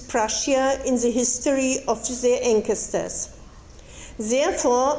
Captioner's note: speaking foreign language